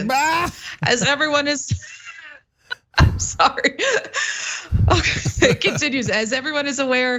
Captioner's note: laugh